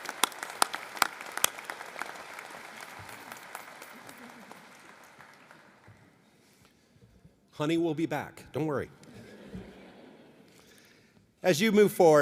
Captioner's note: applause